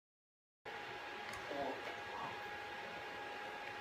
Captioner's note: english computer voice